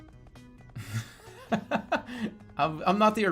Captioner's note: bursts out laughing